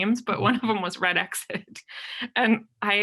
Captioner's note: laughs